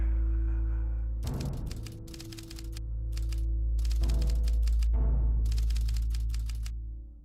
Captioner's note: typewriter clattering; drums playing